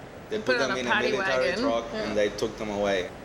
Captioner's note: interrupting